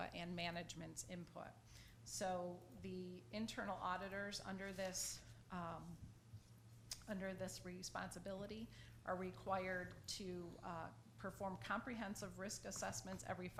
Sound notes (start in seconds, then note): none